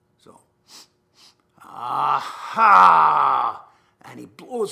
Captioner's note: sniffs